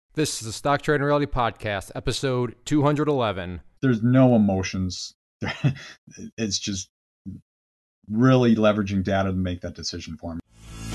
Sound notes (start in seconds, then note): 5.4 chuckles; 10.7 energetic music